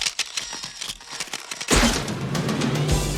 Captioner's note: cameras Clicking